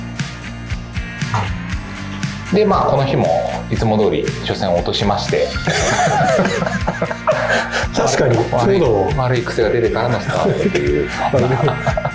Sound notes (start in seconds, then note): 5.5 laughs